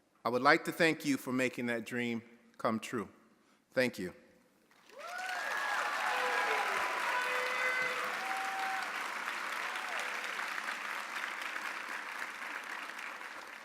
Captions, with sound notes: I would like to thank you for making that dream come true. Thank you. (audience applauding) (audience cheering)